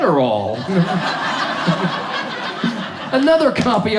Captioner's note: audience laughs